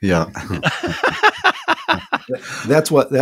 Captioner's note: laughs